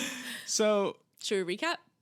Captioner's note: laughing